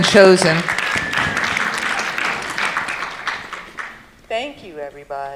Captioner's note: audience clapping